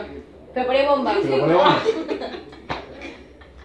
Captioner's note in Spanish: risas